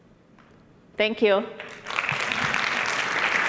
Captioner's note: applause